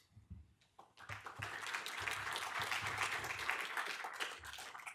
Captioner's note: audience applause